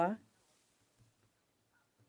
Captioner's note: speaking French